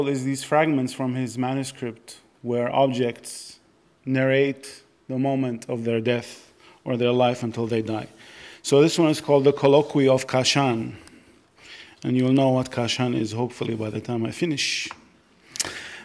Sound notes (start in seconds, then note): none